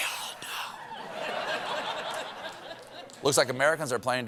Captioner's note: whispering